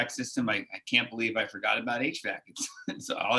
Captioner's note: laughs